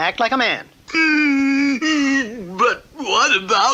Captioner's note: King Cup stops crying